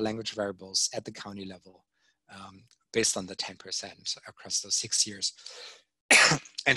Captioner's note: coughing